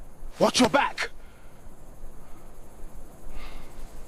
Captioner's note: heavy breathing